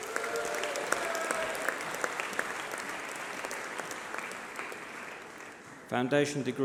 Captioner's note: applause